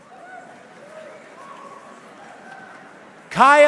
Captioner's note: audiences members cheering